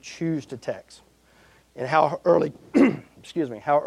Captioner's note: clearing throat